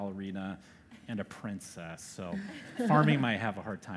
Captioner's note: laugher